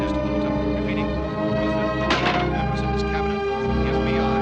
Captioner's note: radio continues - fading out